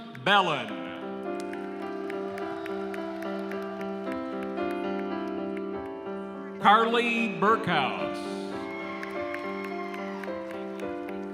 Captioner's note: cheering and applause